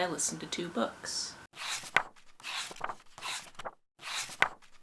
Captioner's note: pages turning